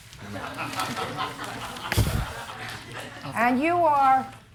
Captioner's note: spectators laughing